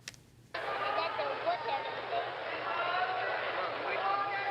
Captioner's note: crowd cheering